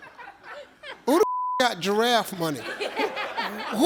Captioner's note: audience laughs; beep; audience laughs